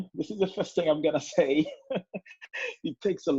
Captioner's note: laughs